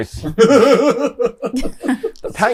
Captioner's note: chuckles